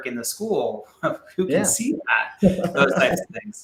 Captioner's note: laughs